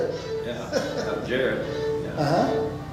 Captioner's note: chuckles